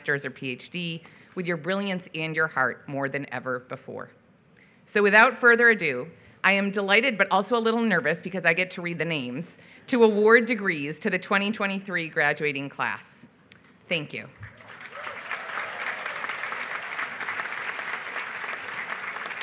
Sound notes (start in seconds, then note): 14.4 applause